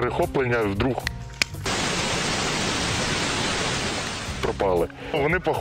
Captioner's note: bad TV signal sound